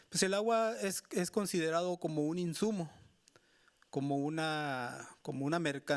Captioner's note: speaking Spanish continues